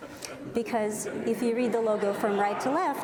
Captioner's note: audience laughs